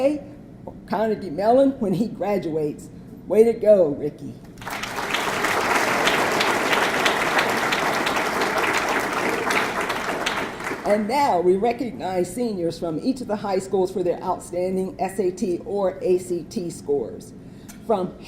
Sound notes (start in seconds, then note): 4.5 audience clapping